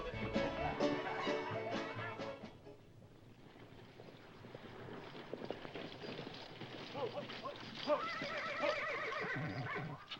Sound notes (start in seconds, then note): 5.3 approaching hoofbeats